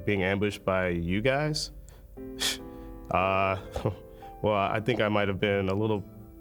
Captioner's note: giggles